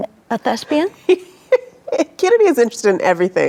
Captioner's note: laughing